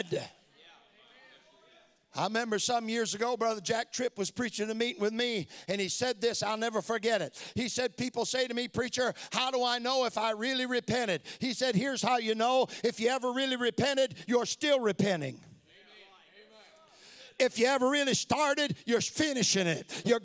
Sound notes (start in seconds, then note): 15.6 crowd